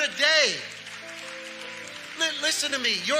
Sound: congregation cheering and clapping

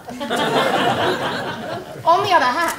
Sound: laugher

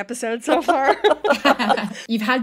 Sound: laughs

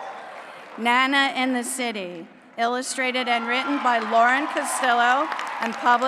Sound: applause; applause

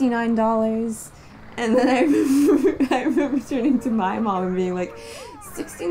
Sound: laughing

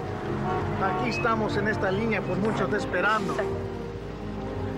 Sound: speaking spanish

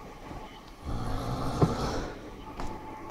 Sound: more loud snoring

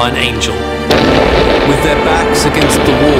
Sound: explosion booms

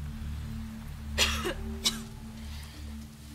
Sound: coughs

